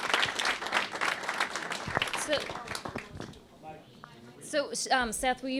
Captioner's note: applause